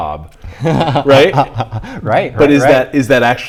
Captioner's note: laughing